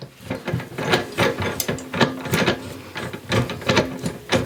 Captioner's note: knobs rattling